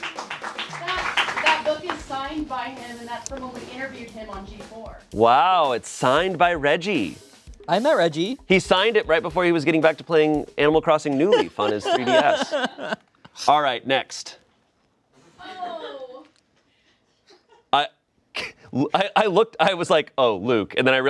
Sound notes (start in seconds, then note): 15.6 friend shouts